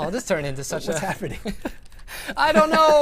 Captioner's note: laughter